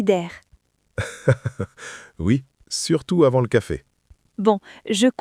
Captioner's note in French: rire